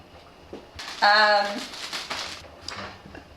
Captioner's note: package shaking